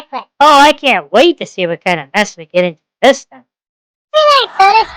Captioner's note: sarcastically